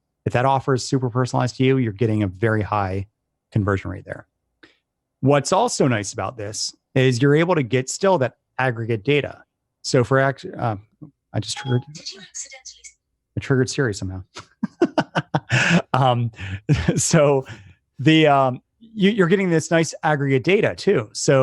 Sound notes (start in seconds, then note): 14.3 laughs